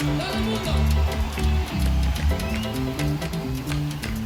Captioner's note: crowd cheers